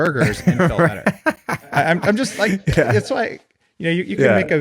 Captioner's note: both laughing